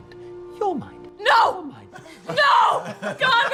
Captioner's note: shouting